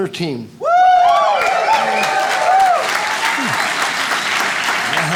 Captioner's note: audience cheers and applauds